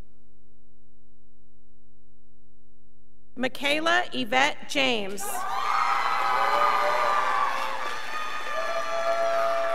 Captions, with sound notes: Makayla Yvette James. (scholars applauding)